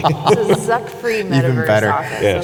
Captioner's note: laughs